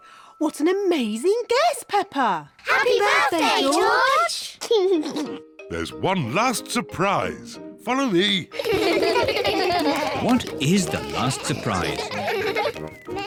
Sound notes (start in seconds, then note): 4.6 laughs; 8.5 kids laugh